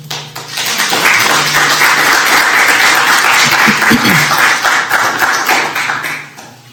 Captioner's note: applause